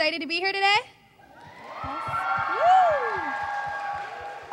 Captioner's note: cheering